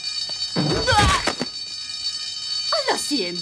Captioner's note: grunting